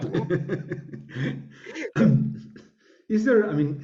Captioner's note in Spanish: riendo